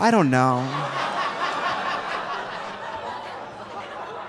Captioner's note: audience laughing